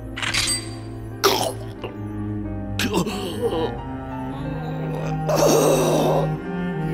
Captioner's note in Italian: gemiti di panico